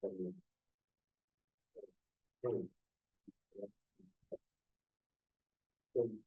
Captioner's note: presenter speaking faintly off mic